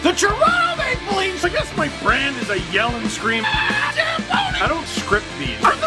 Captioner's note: rock music plays throughout intro; screams